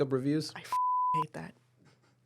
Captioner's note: beep